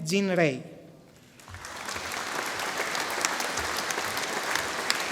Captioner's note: audience applauding